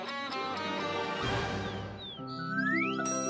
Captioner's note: birds chirp